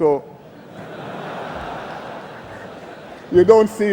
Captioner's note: laughter